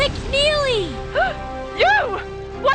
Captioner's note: gasp